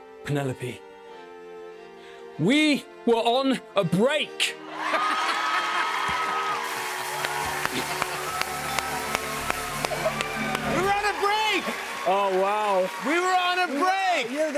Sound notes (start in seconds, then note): 4.6 cheers and applause; 4.8 laughing